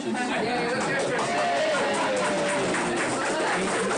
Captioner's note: crowd cheering